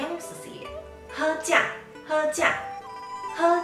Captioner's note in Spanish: en taiwanes; en taiwanes